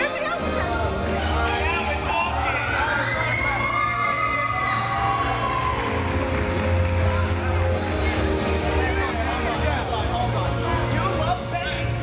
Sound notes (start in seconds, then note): 0.3 upbeat music; 4.5 crowd cheering